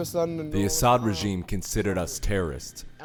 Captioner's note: through translator